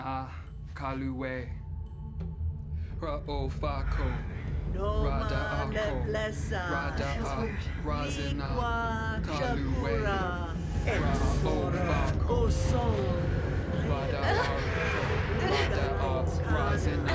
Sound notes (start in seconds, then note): 8.1 chanting continues; 14.1 groaning